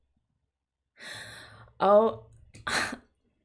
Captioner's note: gasp